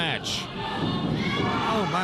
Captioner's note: crowd yelling